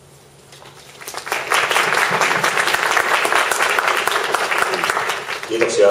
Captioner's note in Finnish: Yleisö taputtaa